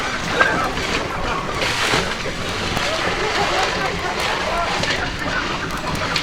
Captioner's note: laughter and flopping of fish